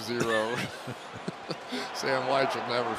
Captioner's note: laughter